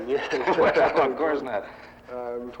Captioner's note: both chuckling